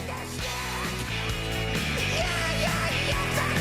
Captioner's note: cheers and applause